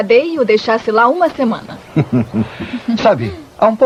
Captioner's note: chuckles